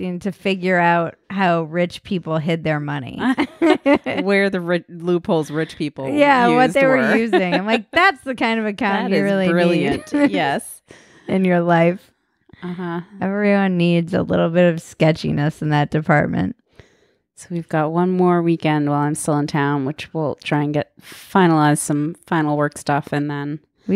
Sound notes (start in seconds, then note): 3.4 laughing